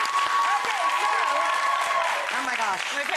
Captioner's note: cheering drowns out speaker; audience cheering